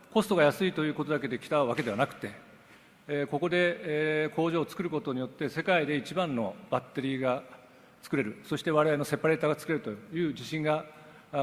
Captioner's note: speaks Japanese